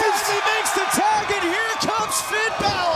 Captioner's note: crowd cheering